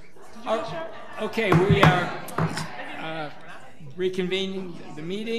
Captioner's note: gavel bangs